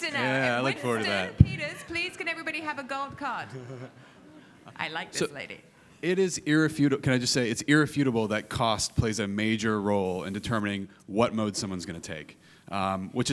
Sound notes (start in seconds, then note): 3.3 chuckling